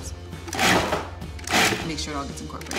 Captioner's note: blender whirs